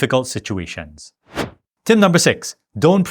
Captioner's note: air whooshing